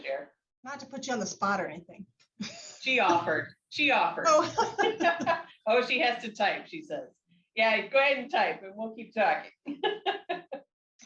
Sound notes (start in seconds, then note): 4.4 laughter; 9.7 laughs